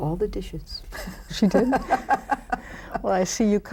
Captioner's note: laughing